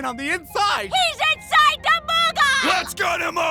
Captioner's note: slurred